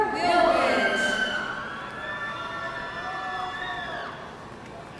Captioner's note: audience cheering